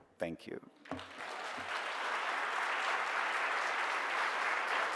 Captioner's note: audience applause